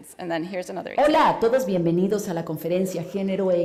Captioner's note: spanish